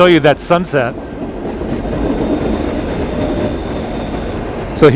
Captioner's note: sound of nearby train